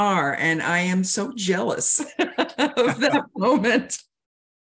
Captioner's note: laughing